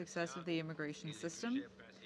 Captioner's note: speaking French